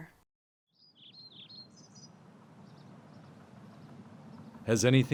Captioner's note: birds chirping